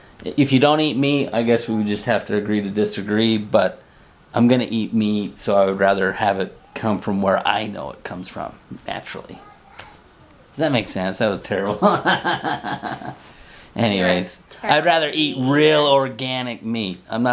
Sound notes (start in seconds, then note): 11.6 laughs